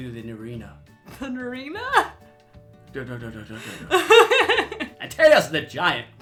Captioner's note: laughs